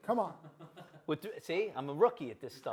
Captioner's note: director laughing